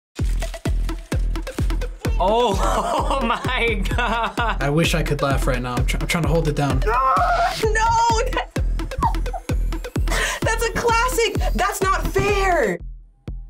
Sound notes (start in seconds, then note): 0.2 upbeat music; 9.0 laughs